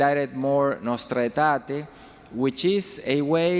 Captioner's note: speaking in foreign language